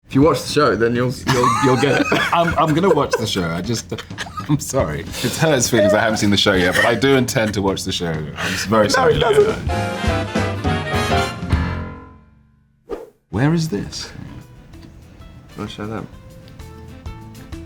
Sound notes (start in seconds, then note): 11.8 jazzy music; 12.9 slide swipe